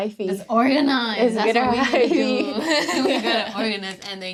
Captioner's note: chuckles